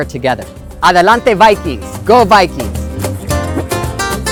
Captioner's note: speaking foreign language; upbeat music